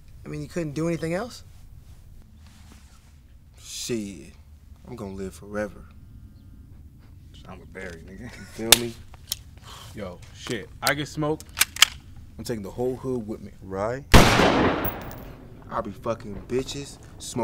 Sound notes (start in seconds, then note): 14.1 gun fires